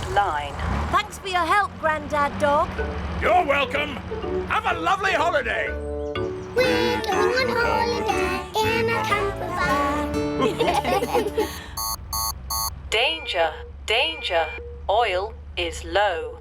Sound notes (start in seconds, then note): 10.4 laughter; 11.6 beeping